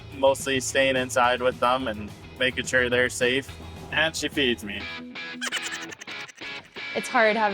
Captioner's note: laugh sound effect